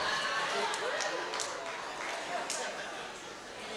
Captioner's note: cheers